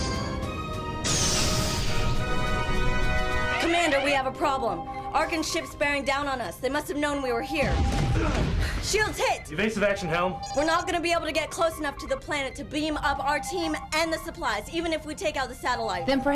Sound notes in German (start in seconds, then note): 3.0 Alarm; 7.6 Explosion